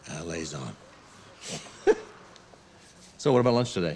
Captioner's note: laughs